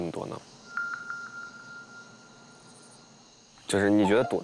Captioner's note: silent